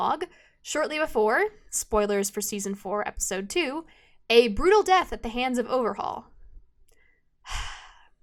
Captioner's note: sigh